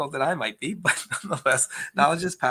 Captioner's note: chuckles